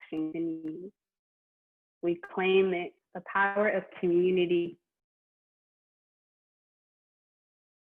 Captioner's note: reading from chat